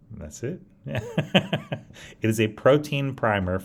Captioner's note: laughs